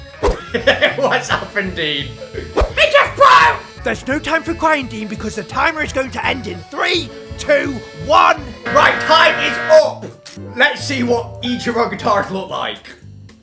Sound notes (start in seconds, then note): 0.3 laughs; 8.7 timer sound effect